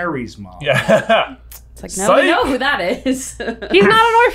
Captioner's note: laughter